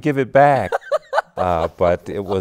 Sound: laughs

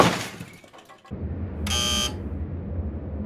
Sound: buzzer

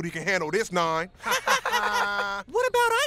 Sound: all laughing

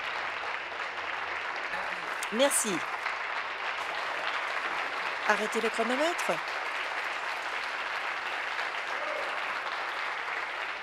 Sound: applause

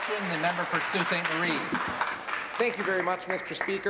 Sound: applause

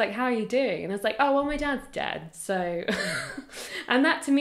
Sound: laughs

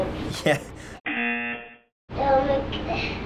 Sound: buzzer

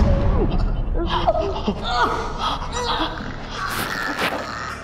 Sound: wife gagging

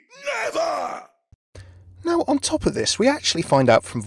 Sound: voiceover

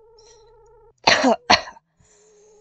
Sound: cough cough

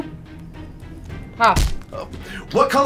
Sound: stamp thuds

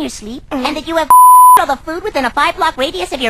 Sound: beep

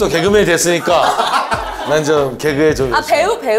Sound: hahaha

